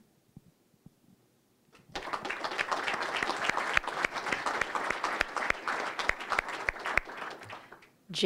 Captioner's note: applause